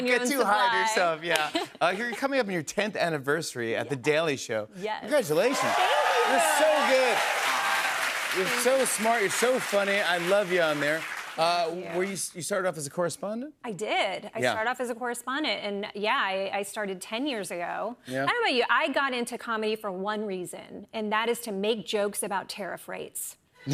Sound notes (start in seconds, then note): 5.4 cheers and applause